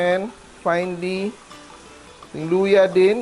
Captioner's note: sizzle